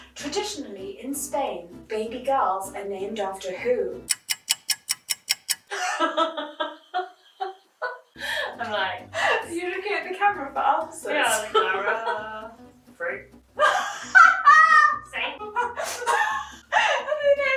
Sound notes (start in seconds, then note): 4.0 clock ticking; 5.6 both laughing; 15.3 laughing